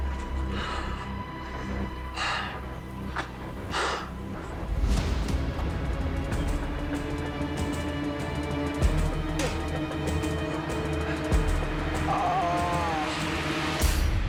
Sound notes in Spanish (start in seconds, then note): 6.5 Risas